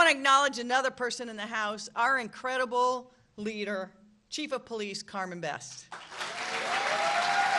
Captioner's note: applause